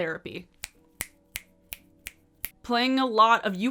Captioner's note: fingers snap